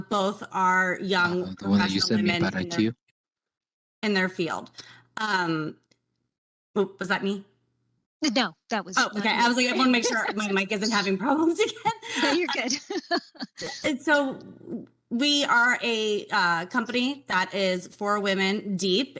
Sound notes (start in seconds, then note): 9.0 laughs; 11.6 chuckles